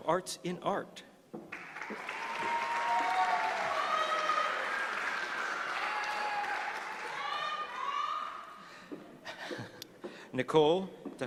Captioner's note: applause